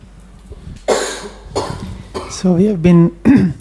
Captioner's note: somebody coughed